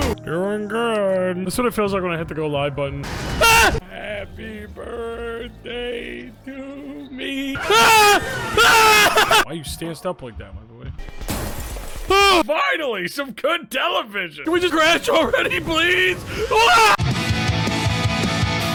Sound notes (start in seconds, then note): 0.0 upbeat music; 3.2 Skull screams; 7.5 Skull screams; 7.6 Skull screams twice; 11.2 glass shatters; 16.9 theme music plays